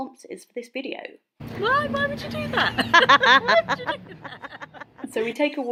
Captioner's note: laughs